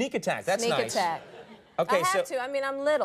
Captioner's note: audience laughing